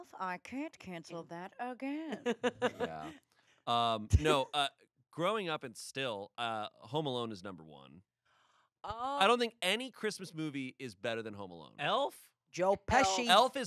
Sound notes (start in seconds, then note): 1.9 laughs